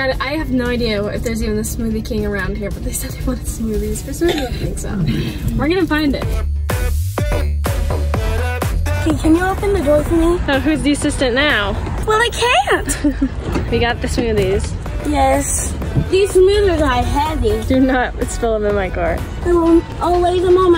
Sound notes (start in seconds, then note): 6.7 upbeat music; 12.6 laughs